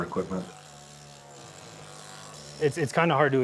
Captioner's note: tool whirs